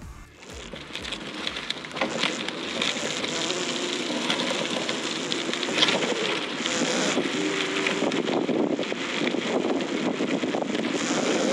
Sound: Zipforce sound

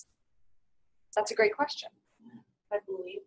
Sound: voiceover

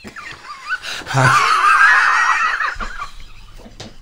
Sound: wheezing Laughter

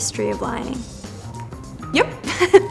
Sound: chuckles

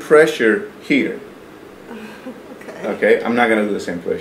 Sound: giggles

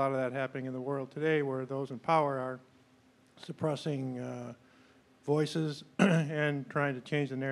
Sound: clears throat

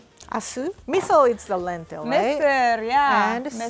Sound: Amharic; speaking Amharic

